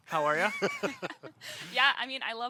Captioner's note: everyone laughs